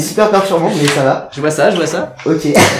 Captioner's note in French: Rires